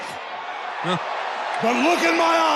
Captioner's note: commentator sighing